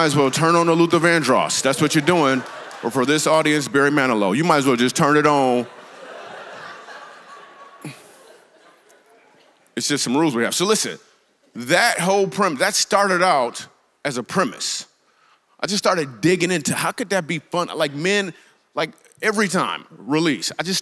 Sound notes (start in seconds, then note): 0.0 congregation laughs; 6.0 congregation laughs